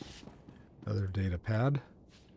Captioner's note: footsteps